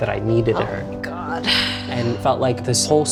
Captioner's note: sighs